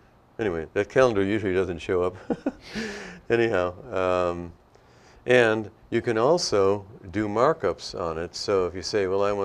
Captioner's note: laughter